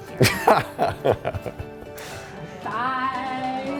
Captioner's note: laughs